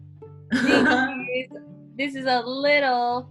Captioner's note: laughs